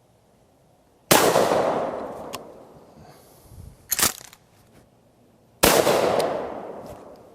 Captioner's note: gunshots